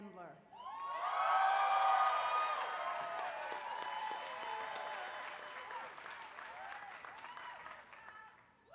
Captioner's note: applause